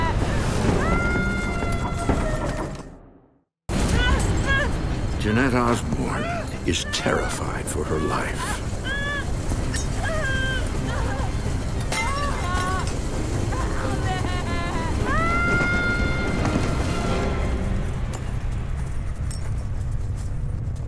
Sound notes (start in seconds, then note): 0.2 shouting; 4.0 eerie music; 9.2 panicked shouting; 15.5 shouting